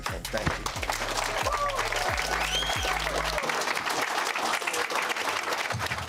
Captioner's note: group cheers and applauds